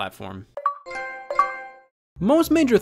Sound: Xbox and PlayStation sounds

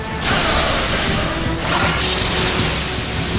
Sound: electricity powers up, crackles; electricity crackling

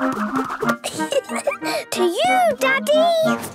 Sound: giggling

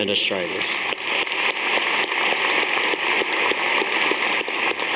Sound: audience applauding

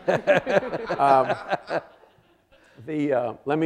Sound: audience laughing

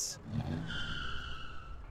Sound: taxi speeds off; Taxi pulls up

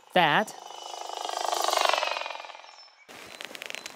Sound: whirring

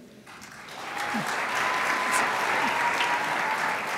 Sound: crowd applauds

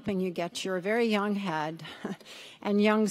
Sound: chuckles

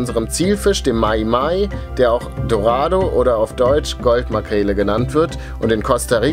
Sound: in German

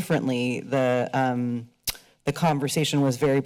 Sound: smacks lips

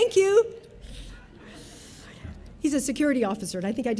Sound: audience laughing

